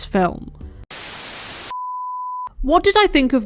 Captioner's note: static